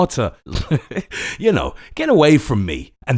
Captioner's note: laughs